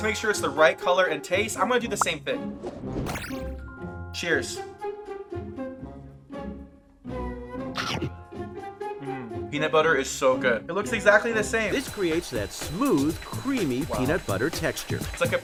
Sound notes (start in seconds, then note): 3.0 upbeat music; 7.8 comical chewing; 7.8 upbeat music